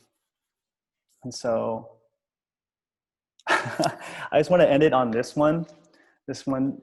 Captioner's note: laughs